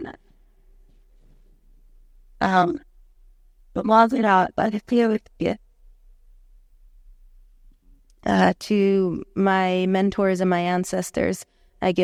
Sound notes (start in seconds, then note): 4.1 speaking Hidatsa